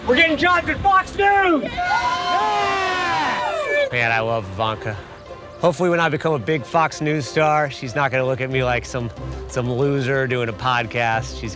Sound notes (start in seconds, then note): 0.9 people cheering